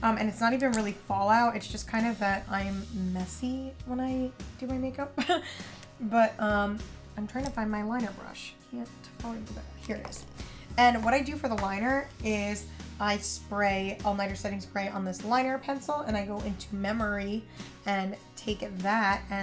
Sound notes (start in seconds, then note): 5.2 chuckles